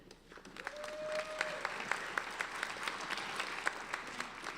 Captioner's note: applauding